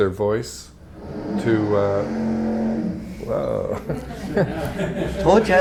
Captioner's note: motor revving sound outside the gallery; laughter